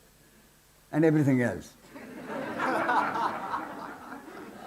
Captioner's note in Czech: smích